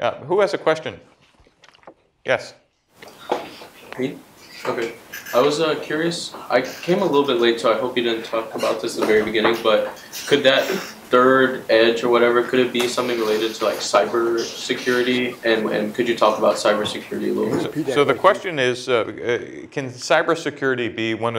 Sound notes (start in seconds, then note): 5.5 voiceover